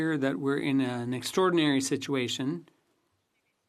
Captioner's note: speaking French